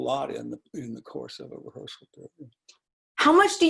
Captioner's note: speaking faintly